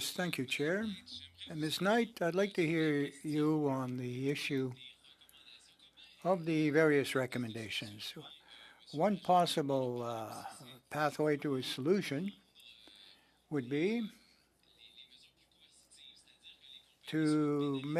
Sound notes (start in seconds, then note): 7.6 speaking french